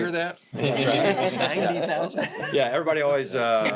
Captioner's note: everybody laughs